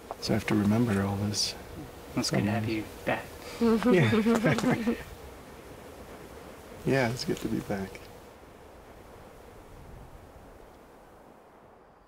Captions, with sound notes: So I have to remember all this. - That's good to have you back. (laughing) - Yeah, it's good to be back.